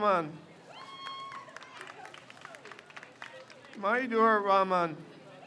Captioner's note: crowd cheers